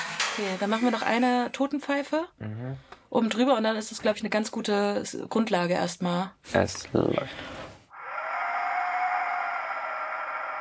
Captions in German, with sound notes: Dann machen wir noch eine Totenpfeife. - Mhm. Oben drüber. Dann ist das eine ganz gute Grundlage erst mal. Es läuft. (Hauchendes, unheimliches Geräusch)